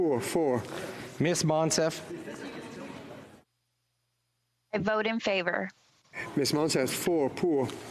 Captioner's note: speaking FRENCH